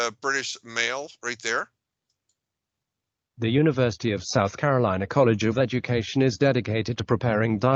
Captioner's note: computer speaking